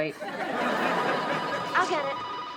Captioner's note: audience laughs; phone rings